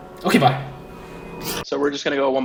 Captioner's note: air whooshing